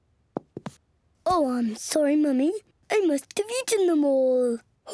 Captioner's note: in deep voice